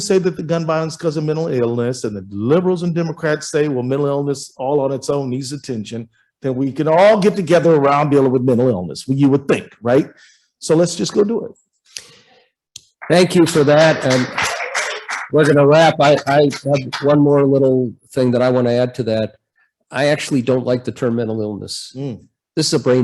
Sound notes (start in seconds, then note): 13.0 applause